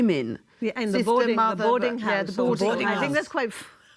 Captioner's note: laughs